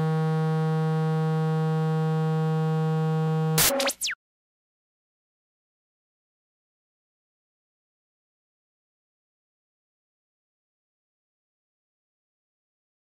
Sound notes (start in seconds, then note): 3.5 music stops; 3.5 static crackles